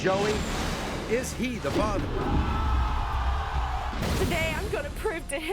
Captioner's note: audience groans